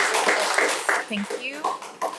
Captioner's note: members applause